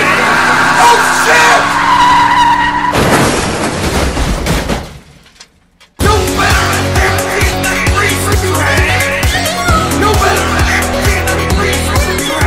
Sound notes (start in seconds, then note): 2.1 tires screech; 2.8 crash